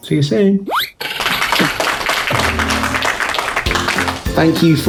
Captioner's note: clapping